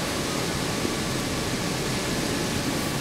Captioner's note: machine noise in the background